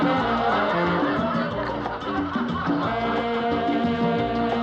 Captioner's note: crowd Laughing, Chattering